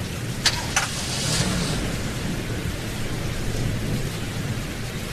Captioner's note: car starts